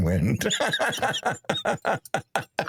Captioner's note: laughing